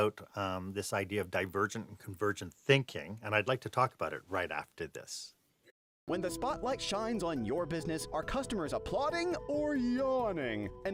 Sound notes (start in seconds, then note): 6.0 voiceover